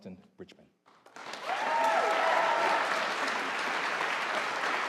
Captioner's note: audience applauding